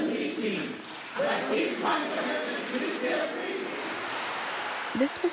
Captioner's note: applause